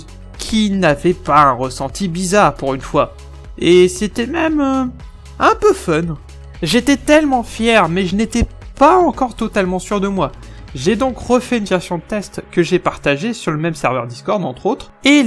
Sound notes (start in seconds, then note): none